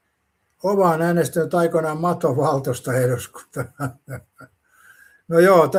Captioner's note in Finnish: naurua